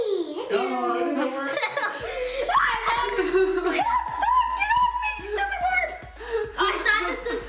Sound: screaming

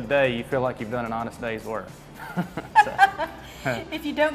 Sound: laughing

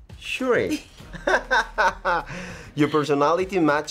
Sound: Tenoch laughs

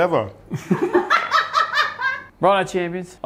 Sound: laughs

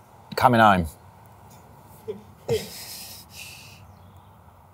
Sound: laughing

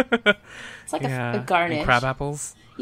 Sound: laughs

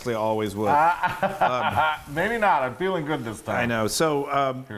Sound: laugh

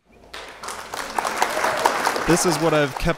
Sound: applause

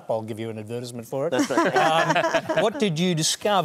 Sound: laughter

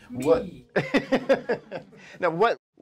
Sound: laughter

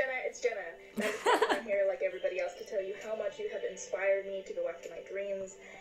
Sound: chuckles

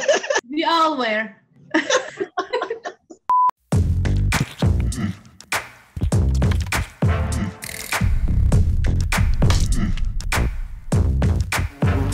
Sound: laughter; laughter. Music

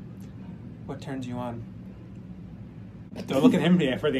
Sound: laughter

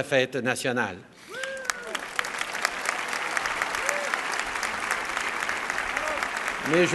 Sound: applause

